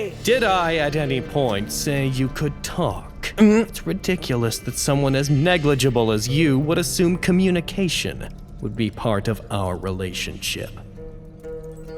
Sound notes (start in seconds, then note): 3.5 gulps